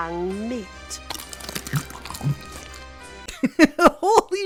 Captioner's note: cunching sounds